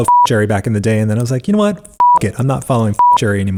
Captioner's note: beep; beep